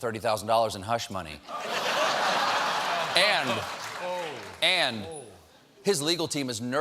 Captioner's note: laughter